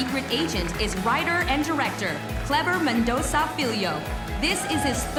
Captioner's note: cheers and applause